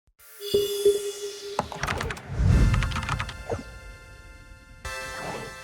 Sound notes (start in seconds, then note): 0.2 electronic notes ring out; 2.7 keyboard clicking